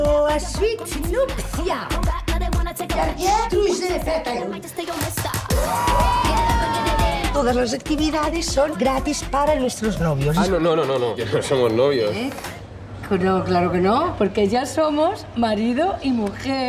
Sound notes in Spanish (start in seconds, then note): 2.7 en francés; 4.9 gritos alegres